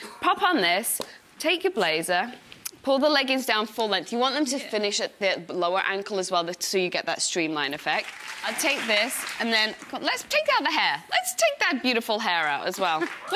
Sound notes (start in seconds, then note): 7.8 audience clapping